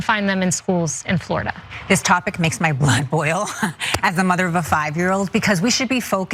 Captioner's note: laugh